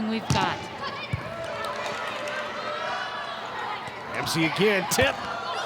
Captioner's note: players shouting indistinctly